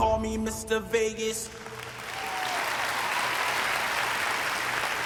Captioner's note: applause